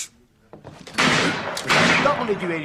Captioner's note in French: Coups de feu